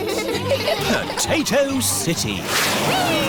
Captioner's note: all giggling